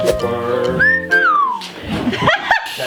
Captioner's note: whistles